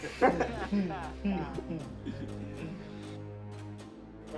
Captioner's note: men laughing